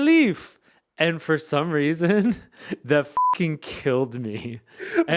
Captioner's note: beep